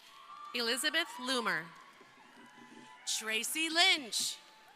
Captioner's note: crowd cheering